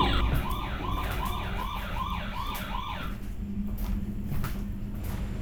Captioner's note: motion alarm blaring; footsteps padding